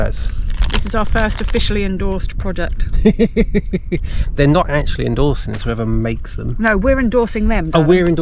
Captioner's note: laughs